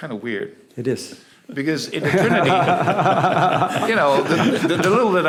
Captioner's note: laughter